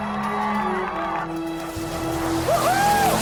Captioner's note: crowd cheering